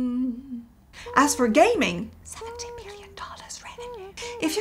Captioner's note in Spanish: en voz baja: 70 millones de dólares